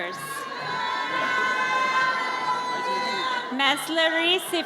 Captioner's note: audience cheers